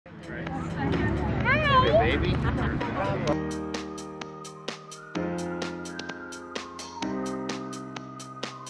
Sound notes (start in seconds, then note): 0.4 people chattering; 3.3 upbeat music plays